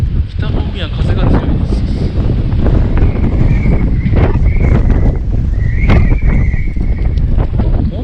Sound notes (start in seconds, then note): 2.0 A fierce wind is blowing